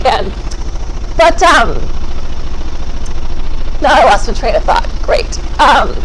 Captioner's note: machine buzzes